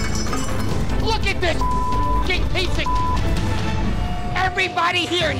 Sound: beep

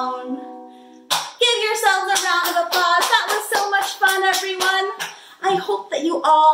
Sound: clapping

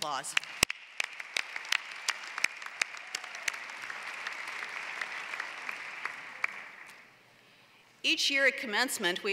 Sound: applause

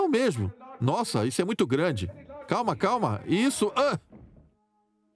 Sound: yells; voiceover

